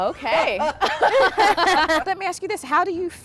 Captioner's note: laughter